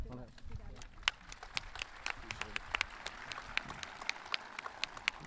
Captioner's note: audience clapping